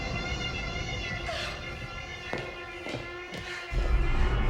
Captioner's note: gasps